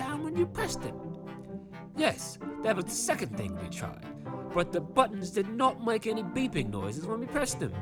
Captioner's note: none